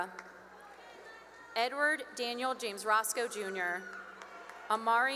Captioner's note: cheering; cheering and applause